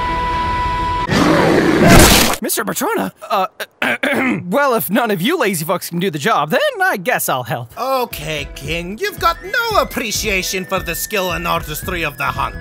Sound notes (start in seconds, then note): 3.6 ahem